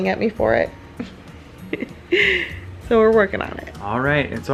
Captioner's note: giggles